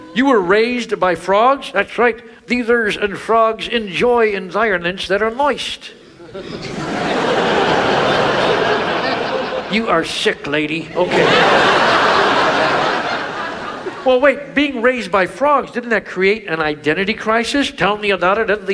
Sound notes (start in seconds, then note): 6.1 audience laughs